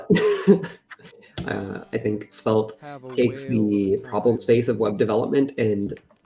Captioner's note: laughs